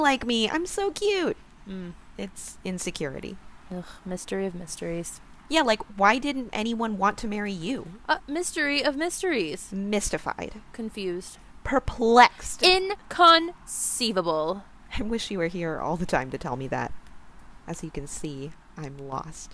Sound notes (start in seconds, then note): none